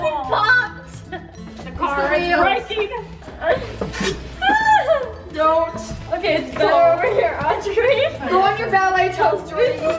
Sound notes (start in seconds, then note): 3.6 squeals